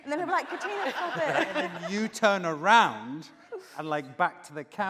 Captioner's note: laughing